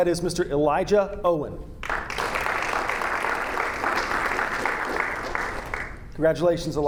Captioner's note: audience applauding